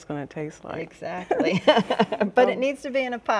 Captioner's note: chuckling; both chuckling